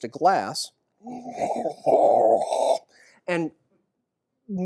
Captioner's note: breaths loudly into glass